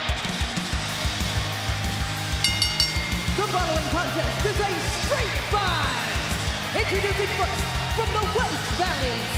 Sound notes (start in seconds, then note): 2.4 bell ringing